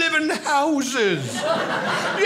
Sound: audience laughing

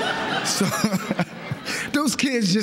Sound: laughter

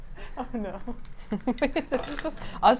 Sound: laughs

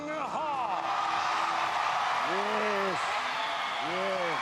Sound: cheers and applause

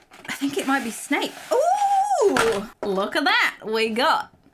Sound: exclaims

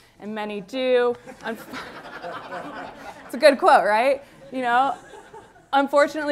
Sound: laughter

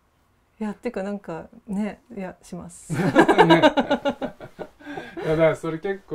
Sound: laugh

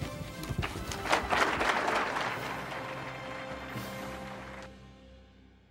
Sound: applause

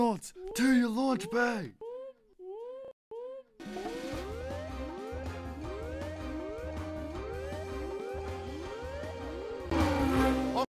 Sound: irritating sound effects

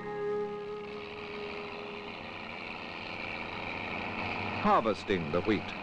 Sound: sound of machinery

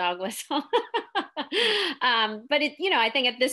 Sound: laughing

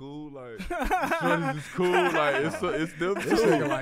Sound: laughs

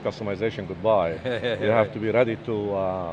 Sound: laughs

